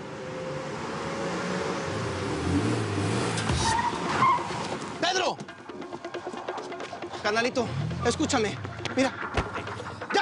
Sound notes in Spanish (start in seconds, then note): 3.2 Frenazo